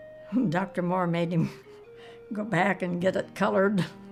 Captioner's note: chuckles